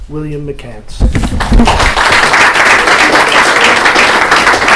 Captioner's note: applause